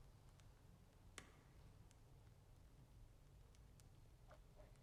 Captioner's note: fire crackling